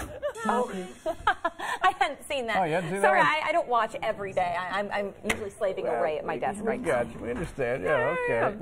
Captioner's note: laughter